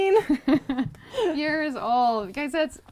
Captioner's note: laughs